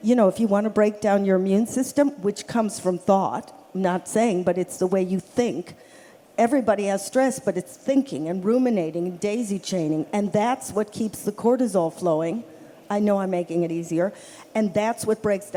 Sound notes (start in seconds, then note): none